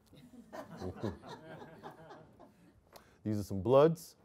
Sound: audience laughing

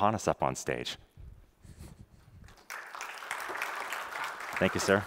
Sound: applause

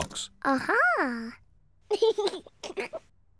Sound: laughs

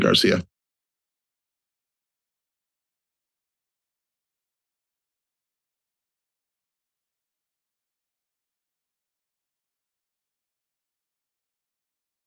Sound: silence

